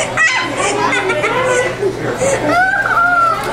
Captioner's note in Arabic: يضحك